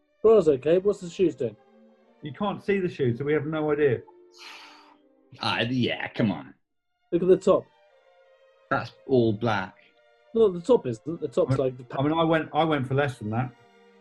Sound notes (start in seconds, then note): 4.4 exhales